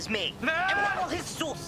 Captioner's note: yelling